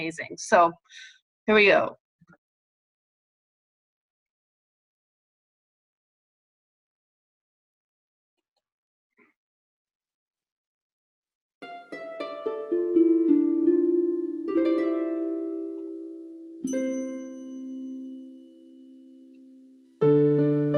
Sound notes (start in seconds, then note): 2.6 silence